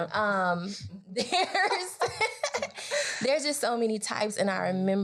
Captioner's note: laughs